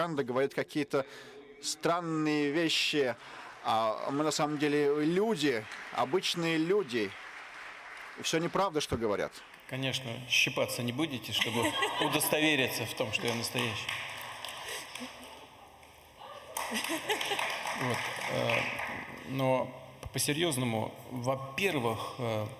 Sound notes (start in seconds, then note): 18.0 laughter